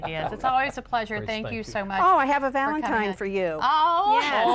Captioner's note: laughter